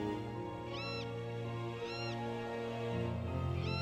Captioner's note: bird calling; light melodic orchestral music